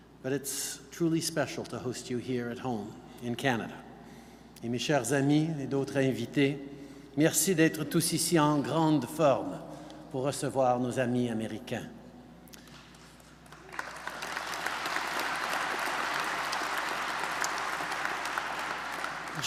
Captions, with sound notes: But it's truly special to host you here at home in Canada. (Speaking French) (Applause.).